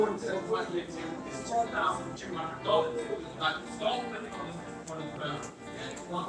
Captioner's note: background chatter